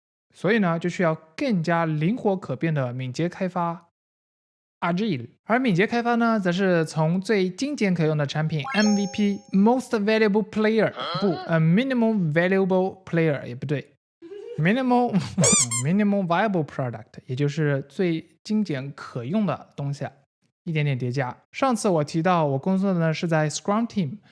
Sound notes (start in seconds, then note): 15.1 can't hold back his laughter